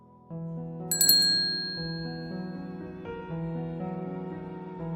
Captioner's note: ring